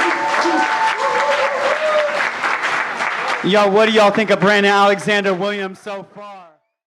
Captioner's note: audience cheers